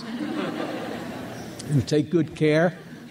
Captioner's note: crowd laughs